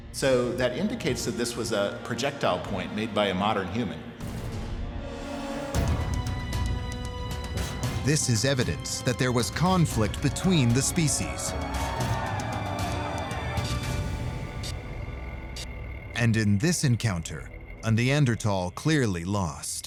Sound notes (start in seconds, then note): 6.1 music tension intensifies; 10.5 men shouting